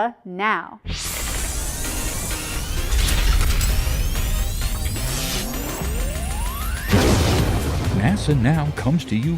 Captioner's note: sound Effects